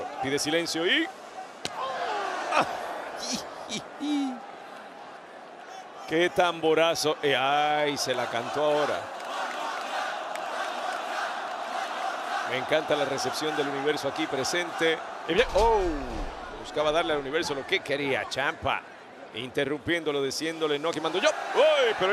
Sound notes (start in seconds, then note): 3.1 laugh; 8.9 applause